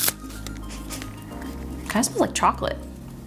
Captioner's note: sniffing